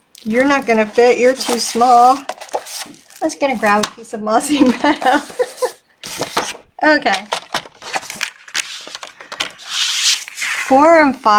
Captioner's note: laughing